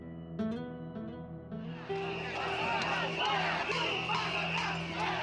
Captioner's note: chanting in Spanish